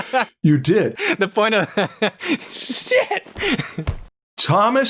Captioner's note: laughter